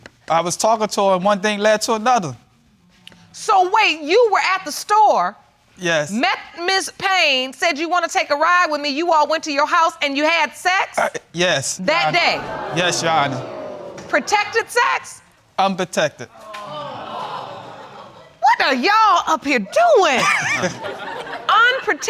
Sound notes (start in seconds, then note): 12.0 audience exclaiming; 16.3 audience exclaiming; 20.1 laughing